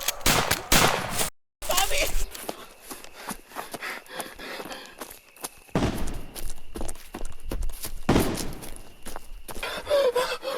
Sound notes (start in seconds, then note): 5.7 distant gunshots